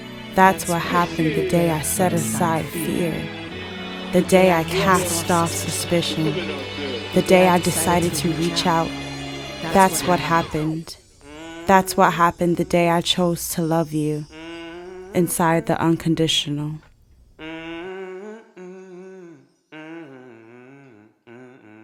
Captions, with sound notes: That's what happened the day I set aside fear The day I cast off suspicion, the day I decided to reach out. That's what happened. That's what happened the day I chose to love you inside the unconditional. [humming]